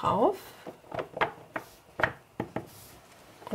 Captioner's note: quiet clattering